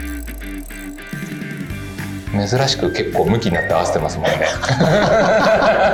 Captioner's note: laughs